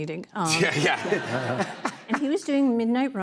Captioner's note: laughter